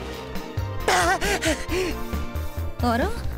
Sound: gasp

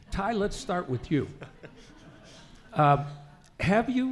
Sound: laughing

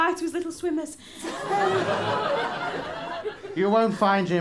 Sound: laughter

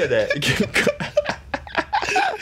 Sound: huge laughter

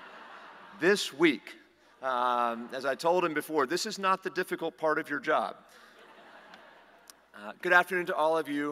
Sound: laughter

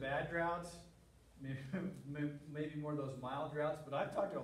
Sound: laughter

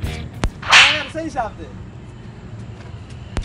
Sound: slap

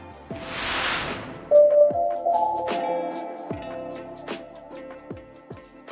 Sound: lively music; screen whooshing

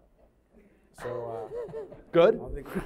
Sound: laughing

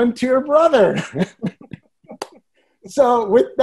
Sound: all laughing

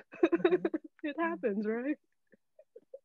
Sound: all laughing

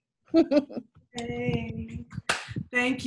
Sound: giggles; clap

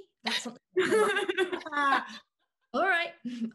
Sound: laughing

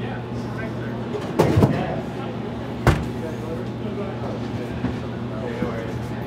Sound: indistinct background thudding

